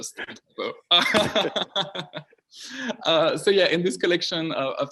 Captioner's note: all laughing